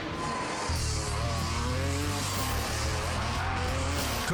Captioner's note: engines roaring; energetic music